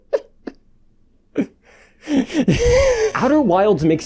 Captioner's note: laughing; further laughing